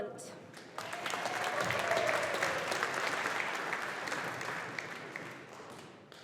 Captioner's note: audience applauding